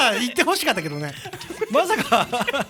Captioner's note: giggle